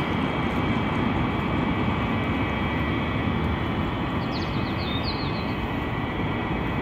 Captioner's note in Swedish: luftkonditionering